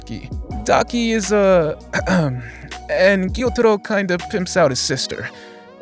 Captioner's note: cough